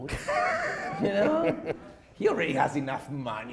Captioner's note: chuckles